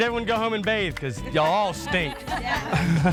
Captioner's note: laughs